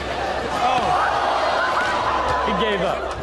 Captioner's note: audience groans